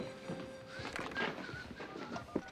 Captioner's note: whistling softly; dialing